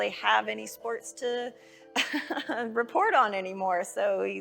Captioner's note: laughing